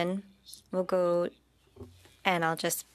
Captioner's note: speaking French